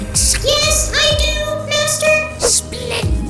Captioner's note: monotone